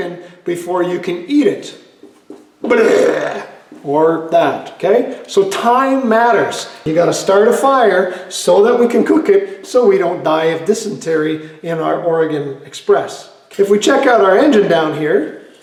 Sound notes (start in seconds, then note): 2.6 barf